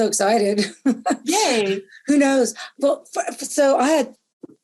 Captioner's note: laughter